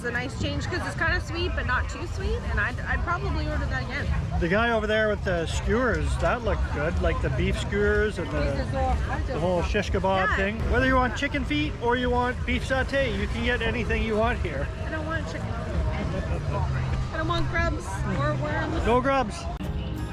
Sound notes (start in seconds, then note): 15.7 laughs